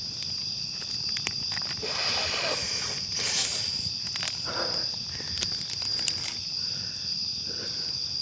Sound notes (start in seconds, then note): 1.8 Harvey snorting; 4.4 Harvey gasping